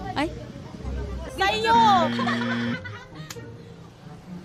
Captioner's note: buzzer sound